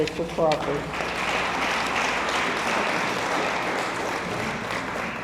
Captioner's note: audience applauds